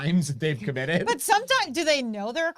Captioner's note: chuckles